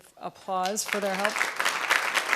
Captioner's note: applause